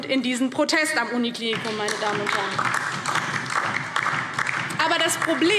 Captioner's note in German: Beifall DIE LINKE